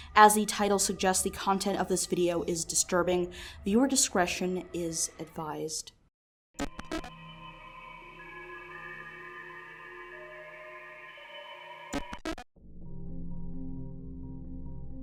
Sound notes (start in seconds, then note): 6.6 static crackling; 6.6 creepy music